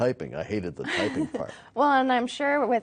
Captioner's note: laughing